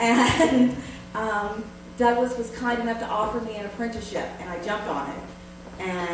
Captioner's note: laughs